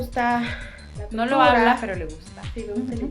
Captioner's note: Korean